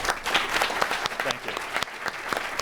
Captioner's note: applause